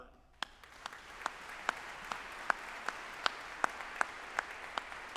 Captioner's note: audience applauding